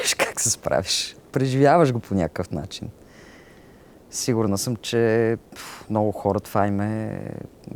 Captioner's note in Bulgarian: смее се